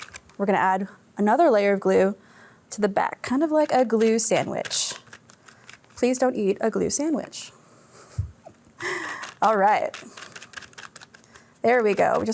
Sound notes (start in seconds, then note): 8.7 laughs